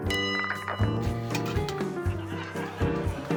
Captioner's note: bell rings